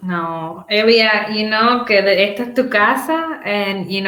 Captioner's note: speaks Spanish